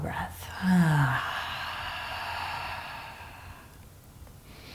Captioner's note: breathing deeply